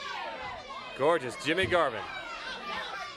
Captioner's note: crowd chatter